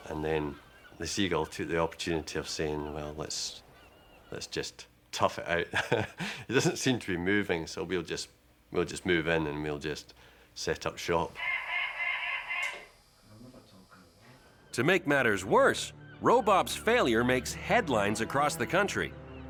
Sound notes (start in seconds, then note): 5.6 chuckles; 11.3 Robop squawking